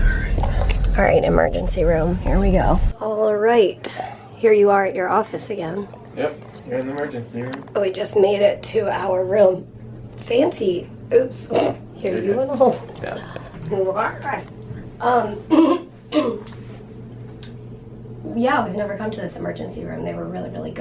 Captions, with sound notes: Alright emergency room, here we go. Alright, Here you are at your office again Yup! Here in the emergency room. We just made it to our room Fancy! -- Oops, here, you wanna hold it hah. (groans) Um, (clears throat) Yeah, we've never come to this emergency room, they were really really good